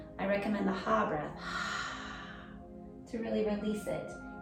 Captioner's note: exhaling deeply